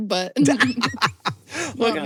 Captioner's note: laughs